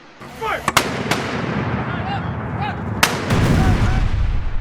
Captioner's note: gunfire rattling; soldiers yelling